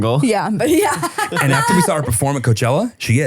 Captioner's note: laughing